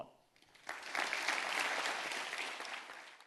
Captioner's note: applause